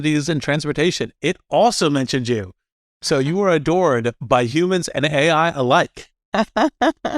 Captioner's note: laugh